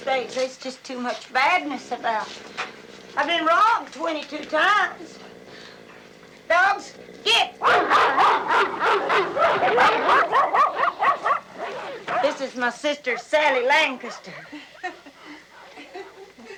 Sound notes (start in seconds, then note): 7.5 barking; 15.4 nervous laughing